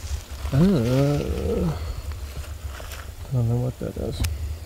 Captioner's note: leaves rustling; Chris groaning